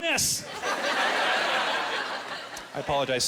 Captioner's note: laughing